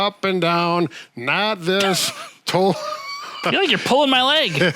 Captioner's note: both laughs happily